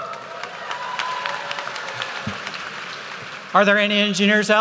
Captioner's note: applause